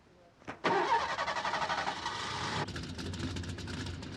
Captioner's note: engine revving